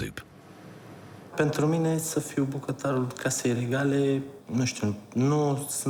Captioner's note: speaking foreign language